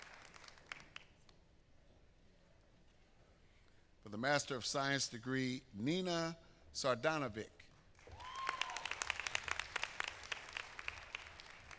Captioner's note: applause